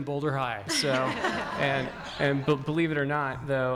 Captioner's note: audience laughing